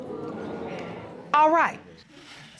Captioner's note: audience exclaiming